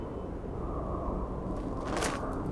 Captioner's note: crunch sound